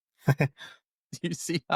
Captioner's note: chuckles